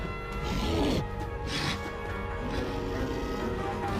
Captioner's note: sphinx snarling; lively tempo music